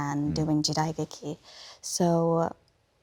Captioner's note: speaks Japanese